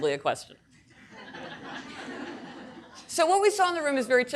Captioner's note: audience laughing